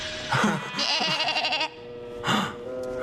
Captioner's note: bleats